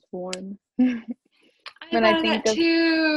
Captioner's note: chuckles